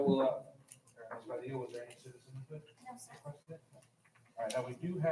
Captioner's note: distant chattering